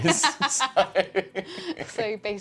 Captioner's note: laughter